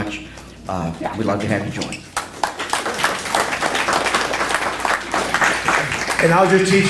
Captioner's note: applause